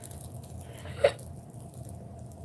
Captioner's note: scoffs